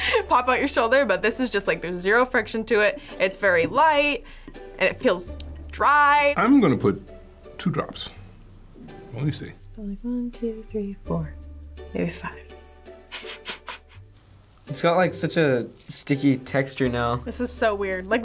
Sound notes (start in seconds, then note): 0.0 laughs; 13.1 chuckles